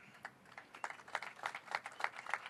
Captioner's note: applause